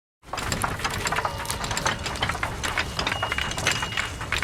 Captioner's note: tiles rattling